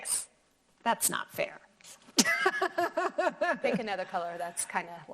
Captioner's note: laughing